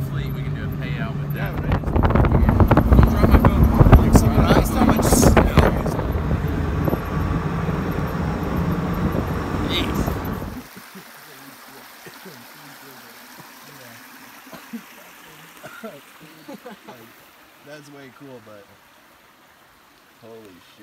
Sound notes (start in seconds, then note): 10.0 water running; 15.5 coughing